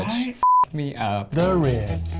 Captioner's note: beep